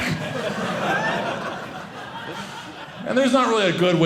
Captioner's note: audience laughing